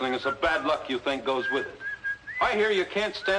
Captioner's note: whistling